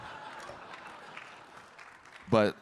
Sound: audience clapping

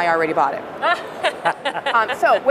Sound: laughter

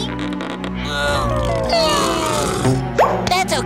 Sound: grunting

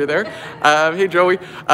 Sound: laughing

